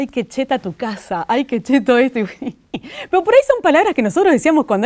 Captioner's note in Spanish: risas